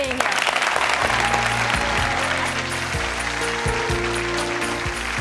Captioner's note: applause and upbeat music